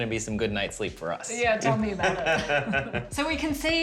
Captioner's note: laughter